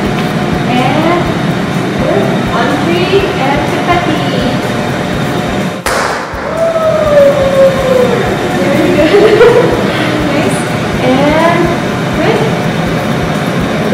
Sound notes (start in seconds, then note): 6.4 cheers; 8.8 giggles